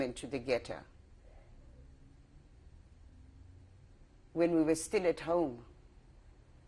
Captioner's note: pauses for 3 seconds